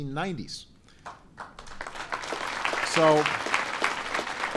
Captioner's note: applause